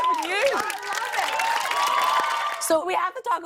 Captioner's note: cheers and applause